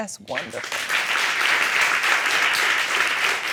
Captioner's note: audience applauding